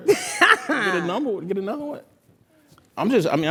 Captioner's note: laugh